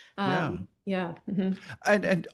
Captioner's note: general assent